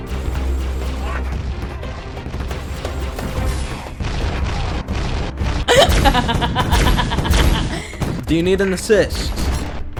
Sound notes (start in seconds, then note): 0.5 aliens screaming in terror; 5.7 maniacal laughing